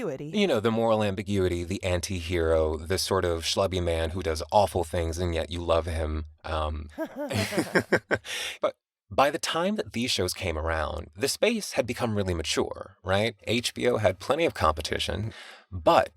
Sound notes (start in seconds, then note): 7.0 laughter